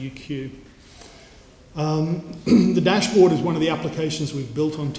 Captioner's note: cough